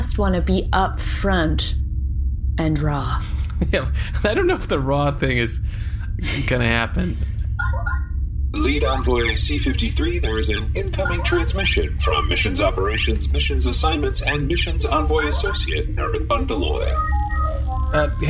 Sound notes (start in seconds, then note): 7.6 communicator chimes